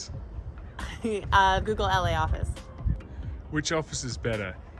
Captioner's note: giggles